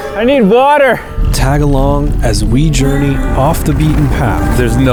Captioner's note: voiceover